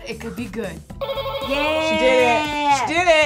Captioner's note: button buzzes